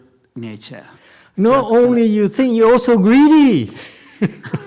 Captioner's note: laughs